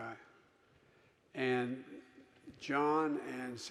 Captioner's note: none